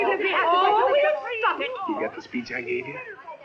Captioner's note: chattering